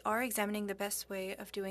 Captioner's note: speaking French